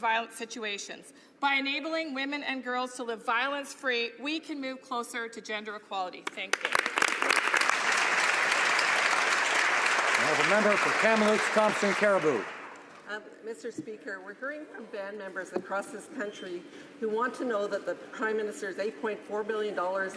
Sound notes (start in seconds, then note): 11.1 some Applause